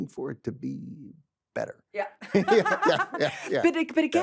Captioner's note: laughs